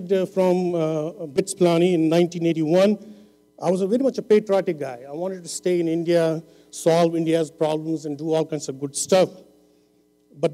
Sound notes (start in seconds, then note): none